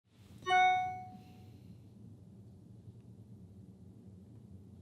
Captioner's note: phone notification bings